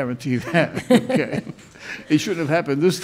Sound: both laughing

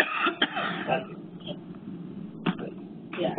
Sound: coughing

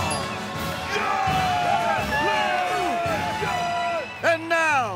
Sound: cheering

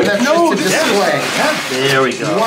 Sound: paper rustling

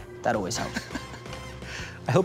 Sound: laughs

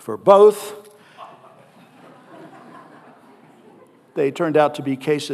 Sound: audience laughing

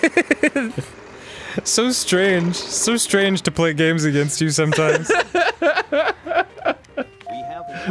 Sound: laughs; laughs

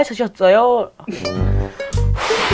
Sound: pft

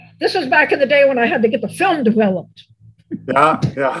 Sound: laughs

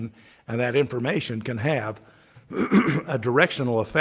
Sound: clears throat

